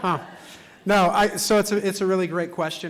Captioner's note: laughter